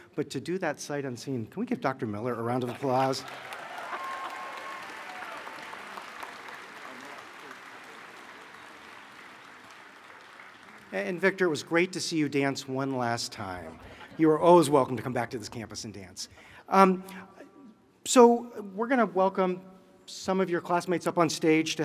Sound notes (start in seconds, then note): 2.6 applause